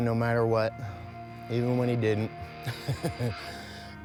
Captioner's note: chuckles